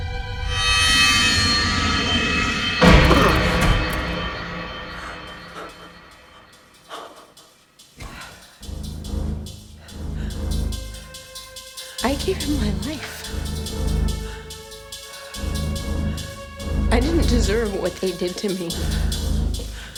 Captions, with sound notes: (thudding) (tense music) - I gave him my life. I didn't deserve what they did to me.